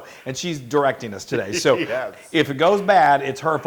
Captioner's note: laugh